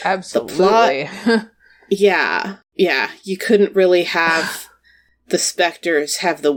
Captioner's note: sighs